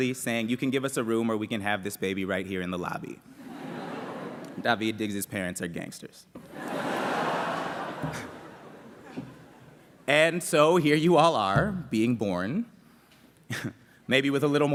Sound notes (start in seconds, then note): 6.4 laughter